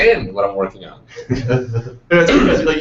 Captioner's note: chuckling